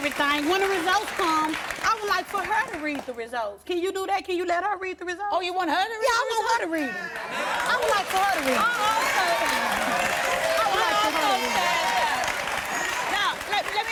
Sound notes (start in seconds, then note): 8.6 applause